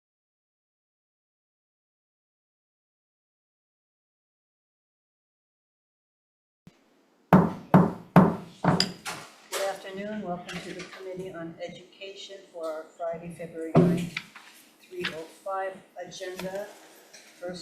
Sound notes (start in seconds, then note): 7.3 gavel bangs